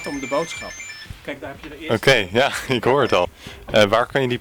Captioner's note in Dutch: ring ring